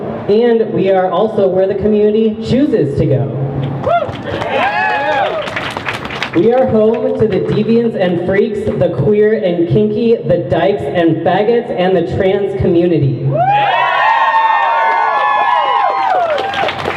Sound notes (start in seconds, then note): 3.7 crowd cheers; 13.4 crowd cheers